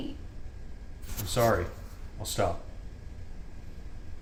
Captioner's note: rustles